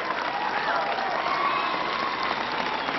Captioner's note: applause